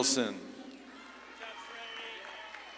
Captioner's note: audience claps and cheers